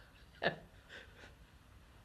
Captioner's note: laughs